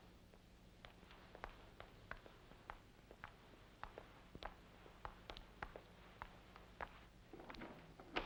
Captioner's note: Jane's footsteps; door opens